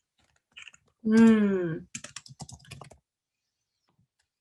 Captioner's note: keys clicking